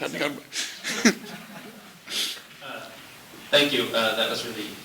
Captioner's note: laughter